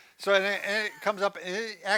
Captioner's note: laughs